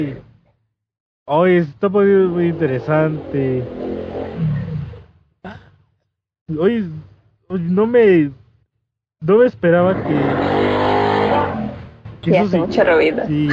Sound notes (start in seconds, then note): 7.4 motorcycle Sound